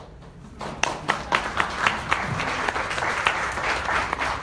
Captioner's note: audience applauds